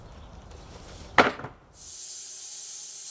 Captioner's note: wood clatters; saw whirring